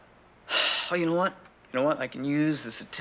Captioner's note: exclaiming; sighs